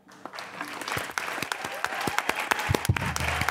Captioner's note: applause